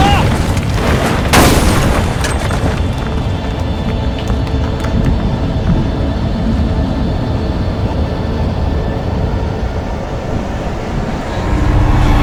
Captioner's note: burst